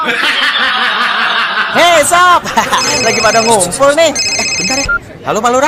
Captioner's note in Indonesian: tertawa